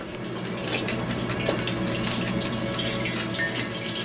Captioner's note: eggs being beaten; hot oil popping in wok